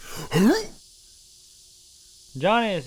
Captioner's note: groaning